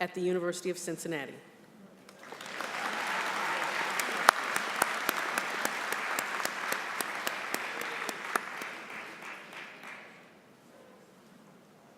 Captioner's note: applause